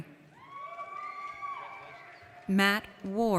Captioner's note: audience cheers